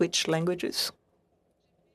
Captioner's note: speaking French